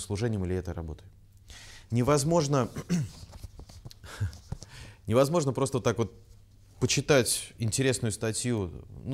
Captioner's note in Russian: откашливается